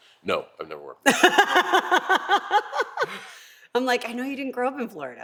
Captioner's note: laugh